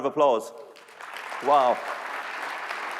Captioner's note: applause